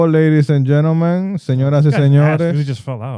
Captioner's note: speaking In Foreign Language